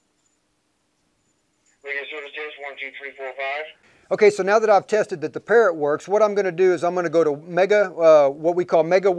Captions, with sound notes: - [Man Over Radio] Radio service test, one, two, three, four, five. - Okay, so now that I've tested that the Parrot works, what I'm gonna do is I'm gonna go to what we call Mega Worldwide 91.